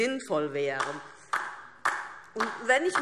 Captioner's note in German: Beifall DIE LINKE